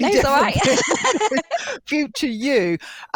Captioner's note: laughter